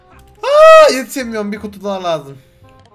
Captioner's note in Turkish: Çığlık Sesi